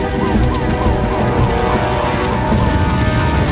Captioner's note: flames Crackling